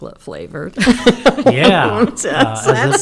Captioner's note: laughter